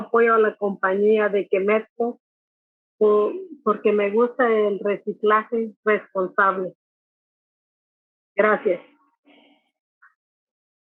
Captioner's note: Spanish; Spanish